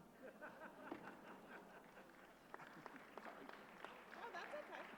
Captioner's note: laughter, applause